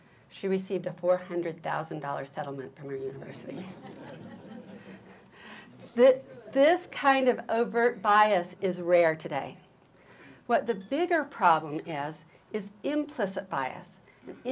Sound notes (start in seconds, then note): 3.4 laughter